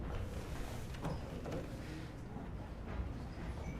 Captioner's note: door opens, closes; footsteps return